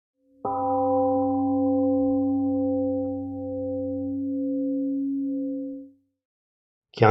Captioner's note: temple gong rings and fades